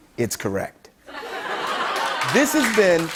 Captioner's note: laughter